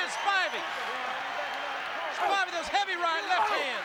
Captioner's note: applause